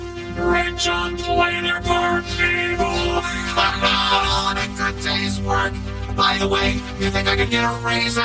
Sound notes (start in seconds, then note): 3.0 both laugh